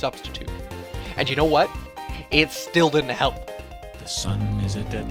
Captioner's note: exasperated